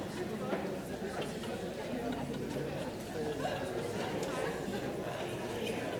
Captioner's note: audience chatters